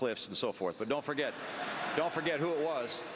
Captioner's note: applause